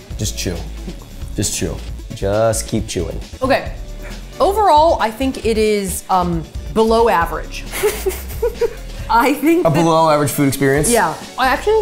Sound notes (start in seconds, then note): 7.6 laughing